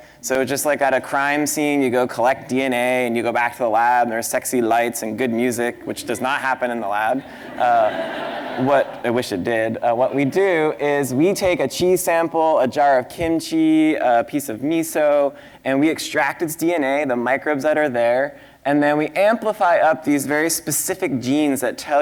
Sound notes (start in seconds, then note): 7.2 laughter